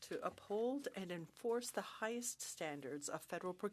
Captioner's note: speaking French